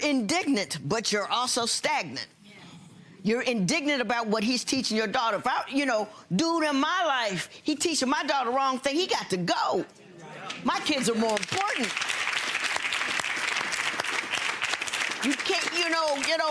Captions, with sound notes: - You're indignant, but you're also stagnant. Dude in my life, he teaching my daughter wrong thing, he got to go. My kids are more important. (audience applauds)